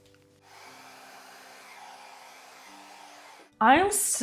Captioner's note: blow-dryer whirring